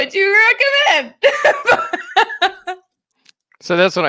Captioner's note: laughing